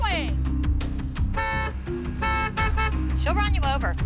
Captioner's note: horn honking